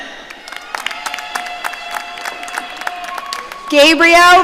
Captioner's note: audience cheering